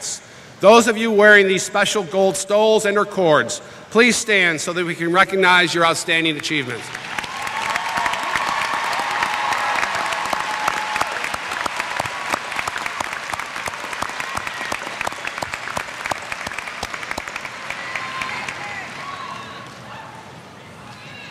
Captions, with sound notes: Those of you wearing these special gold stoles and their cords, please stand so that we can recognize your outstanding achievements. [ Applause ]